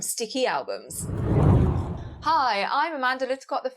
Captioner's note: hard whooshing